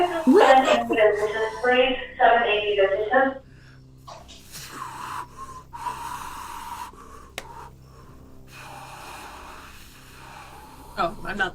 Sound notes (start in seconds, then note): 0.0 heavy breathing; 1.3 robotic voice; 8.8 deep breathing